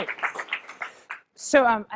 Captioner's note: applause